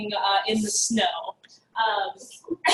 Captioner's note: laugh